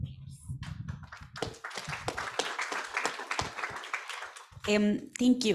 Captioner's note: audience applauds